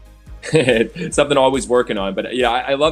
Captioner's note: giggles